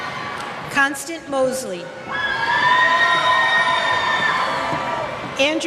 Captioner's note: cheers